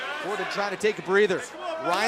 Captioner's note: fans chanting